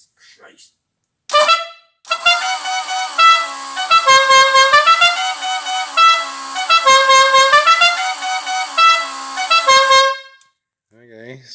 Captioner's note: Dukes of Hazzard horn